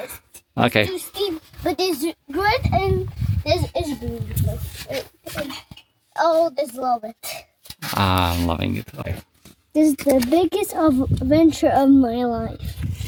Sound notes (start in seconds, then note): 0.5 attempt in English